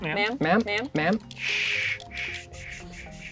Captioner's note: pat